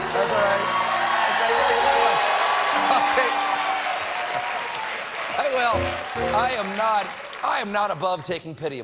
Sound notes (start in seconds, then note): 2.9 applause; 2.9 piano riff